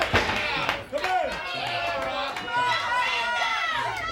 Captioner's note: crowd cheering